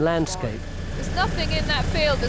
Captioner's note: helicopter blades whir